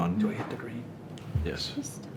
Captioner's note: speaking faintly